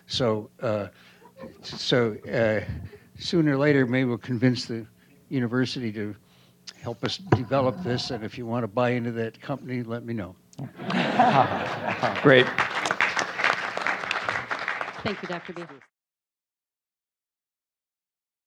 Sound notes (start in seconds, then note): 10.6 audience laughs; 13.8 applause